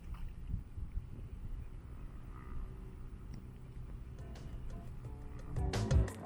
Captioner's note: calm sounds of water; soft background music